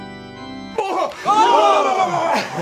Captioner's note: exclaiming; all gasping